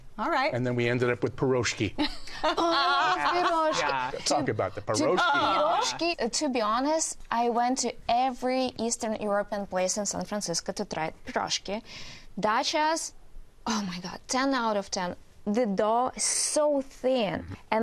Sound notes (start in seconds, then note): 2.4 laughs